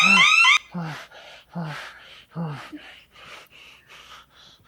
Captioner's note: Perez breathing deeply